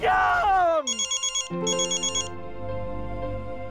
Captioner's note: phone rings